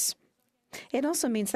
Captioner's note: speaking in French